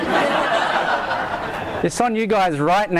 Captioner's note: audience laughs